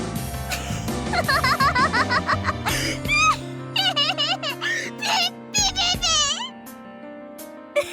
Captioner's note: giggle; giggle